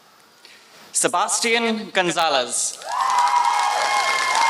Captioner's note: applause